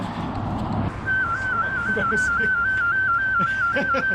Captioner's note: whistling